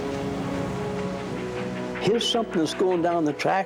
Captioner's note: train chugging